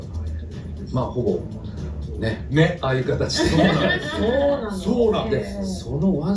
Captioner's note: laughs